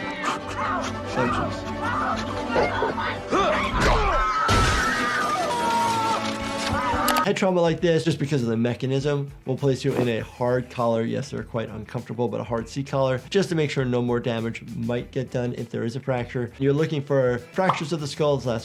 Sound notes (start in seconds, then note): 0.2 Jason panting; 2.2 Santa Claus chuckles; 3.2 person screams; 3.3 Jason grunts; 4.4 glass breaking